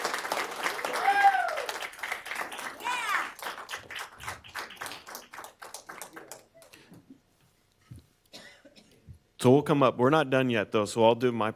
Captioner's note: applause